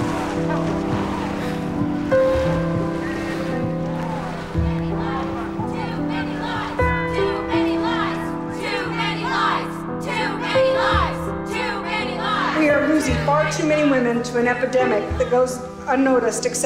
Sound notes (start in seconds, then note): 0.0 cheering; 5.8 chanting